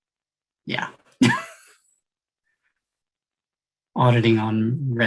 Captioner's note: laughs